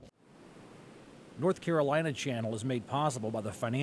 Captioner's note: voiceover